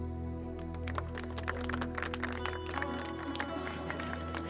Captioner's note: All clapping